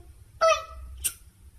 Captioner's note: smooch